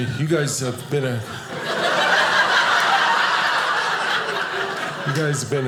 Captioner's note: audience laughing